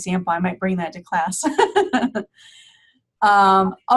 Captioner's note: laughing